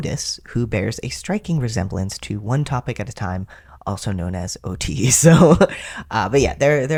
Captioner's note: laugh